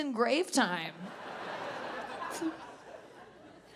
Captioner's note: audience laughs